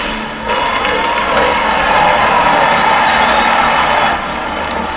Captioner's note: cheering